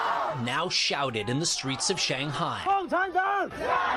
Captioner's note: chanting